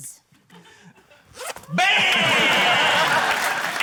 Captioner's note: zip whizzes; applause